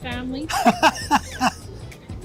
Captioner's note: laughs